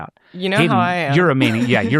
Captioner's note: laughs